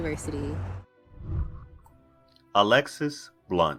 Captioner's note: whooshing